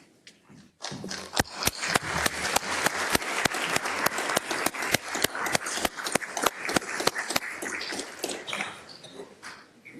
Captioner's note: applause